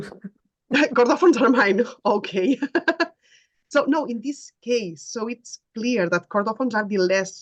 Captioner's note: laughing